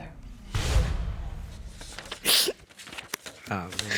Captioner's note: sniffles